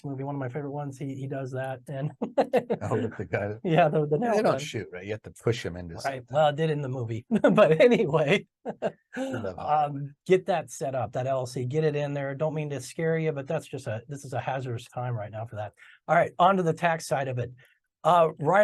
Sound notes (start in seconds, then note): 2.0 laughter; 8.6 chuckles